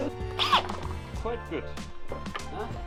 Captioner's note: laughing; squeak